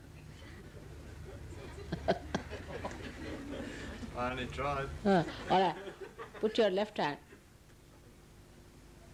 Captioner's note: laughter